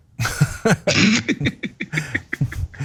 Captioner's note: laugh